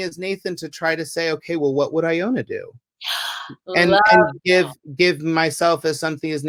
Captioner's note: gasps! "LOVE that."